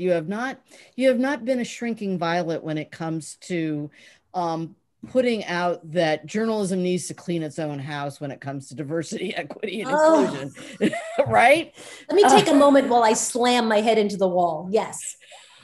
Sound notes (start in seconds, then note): 9.8 laughs; 10.0 Soledad groans